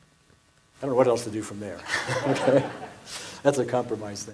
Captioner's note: laughs